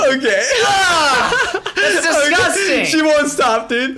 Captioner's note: laughs